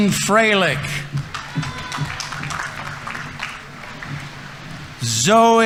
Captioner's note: audience members cheering; audience applauding